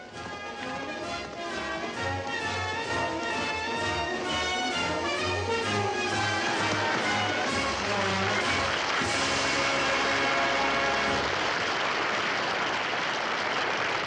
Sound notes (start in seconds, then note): 0.3 grand orchestral music; 7.1 audience applauds